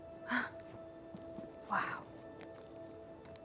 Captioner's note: gasps